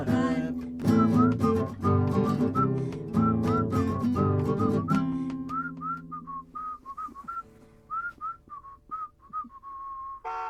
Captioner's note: whistling